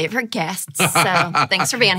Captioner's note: laughing